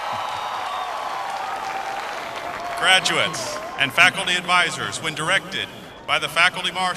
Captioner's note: applause